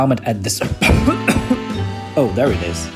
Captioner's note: cough, cough